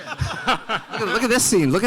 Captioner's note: audience laughing